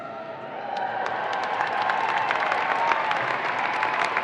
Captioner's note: audience applauds